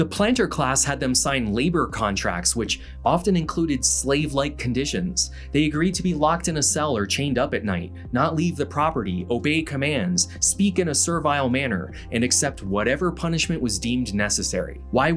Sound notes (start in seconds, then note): none